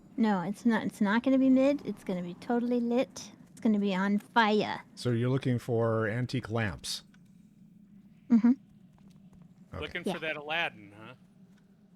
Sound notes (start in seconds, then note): none